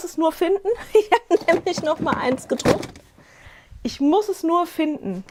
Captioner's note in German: gelächter